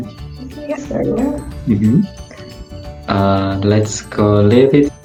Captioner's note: muffled conversation